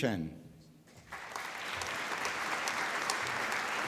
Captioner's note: applause